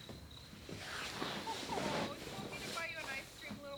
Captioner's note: TV sounds continue